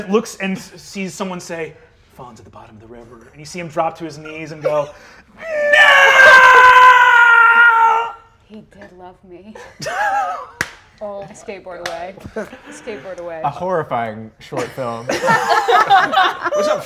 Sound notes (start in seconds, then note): 5.4 screams; 9.7 laughs; 15.3 cast laughing